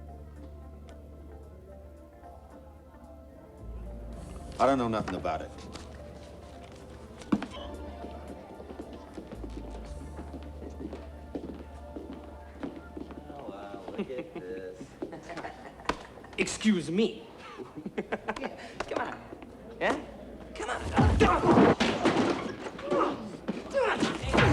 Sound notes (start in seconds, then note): 0.3 gentle upbeat music; 7.0 footsteps thudding; 7.6 crowd cheering; 13.7 thugs laughing; 22.8 fighters moaning